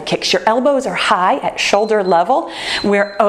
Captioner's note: timer beeps